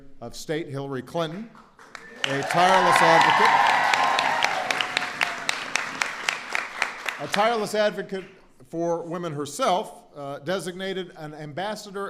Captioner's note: applause